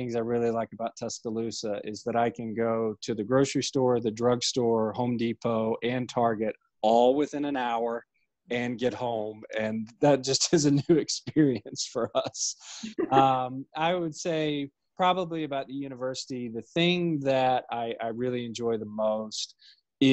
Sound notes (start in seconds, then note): 9.9 laughing; 12.8 laughing